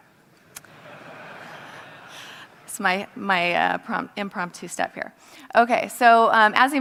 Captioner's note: laugh